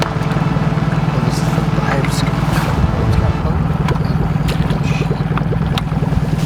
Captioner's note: crew quietly chattering